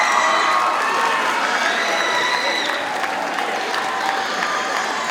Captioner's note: audience cheers and applauds